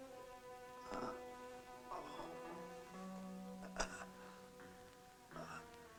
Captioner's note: gentle music; whimpering